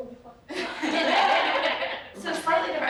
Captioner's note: laughter